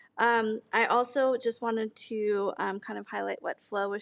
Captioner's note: none